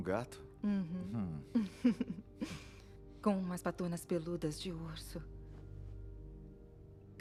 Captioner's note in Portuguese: risadas